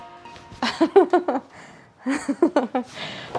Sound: Claire laughs

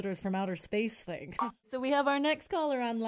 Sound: connect sound

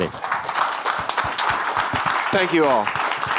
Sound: audience applauding

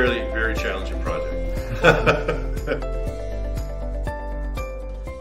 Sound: laughs; upbeat music

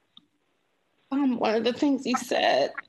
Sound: choked up

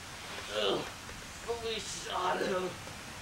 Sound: groans

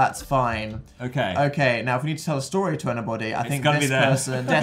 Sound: laughs

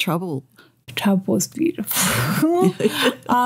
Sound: laughter

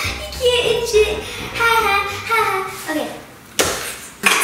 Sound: laughs

